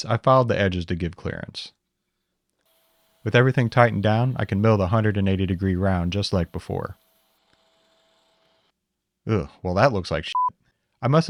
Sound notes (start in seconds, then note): 2.6 mill whirring; 10.3 beep